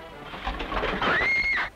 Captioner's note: shout